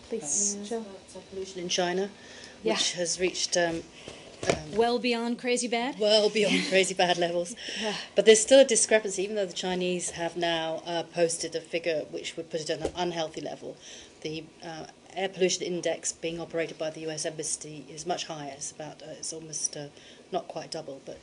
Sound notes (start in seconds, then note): 6.4 laughter